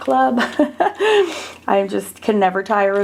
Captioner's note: person laughing